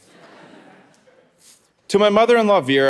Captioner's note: audience laughing